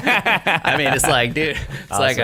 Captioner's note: laughter